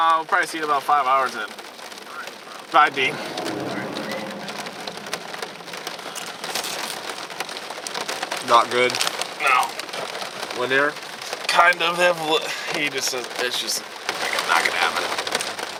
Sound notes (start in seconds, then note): 2.8 rain pattering